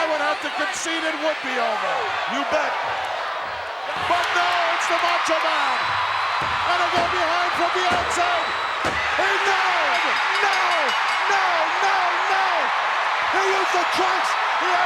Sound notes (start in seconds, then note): 5.9 crowd cheers; 8.3 referee's hand thumps; 9.0 bell rings